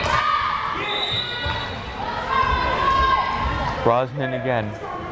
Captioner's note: whistle blares